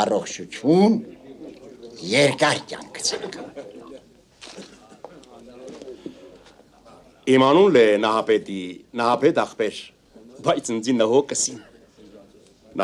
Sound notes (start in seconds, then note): 4.8 hubbub